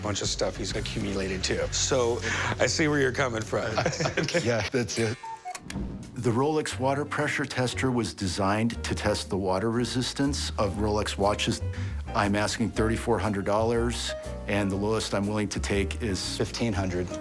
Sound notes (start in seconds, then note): 5.1 cuckoo clock chime